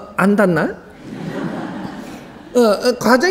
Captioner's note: audience starts to laugh